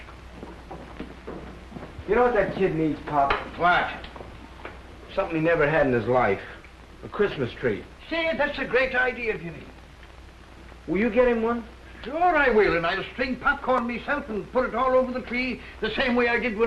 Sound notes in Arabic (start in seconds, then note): none